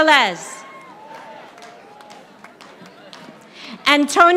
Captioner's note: audience applauding